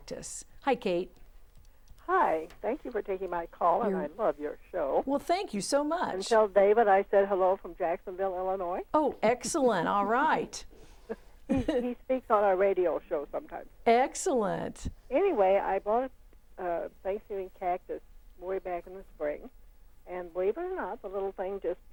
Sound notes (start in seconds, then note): 11.4 laughing